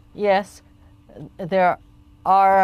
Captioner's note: speaking French